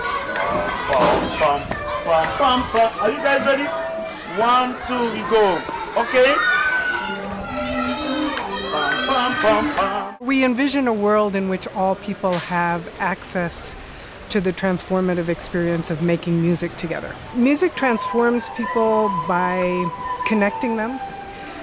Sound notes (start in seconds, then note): 0.0 snapping; 6.4 flute music; 6.7 snapping